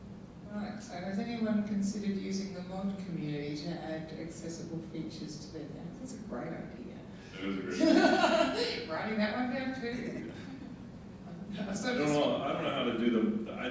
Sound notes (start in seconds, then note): 7.4 laughing